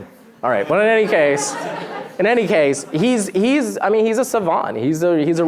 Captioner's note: laughter